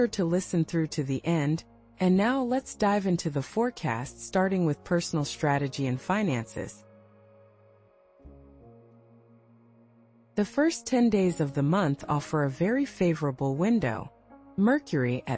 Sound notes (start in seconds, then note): 9.2 pause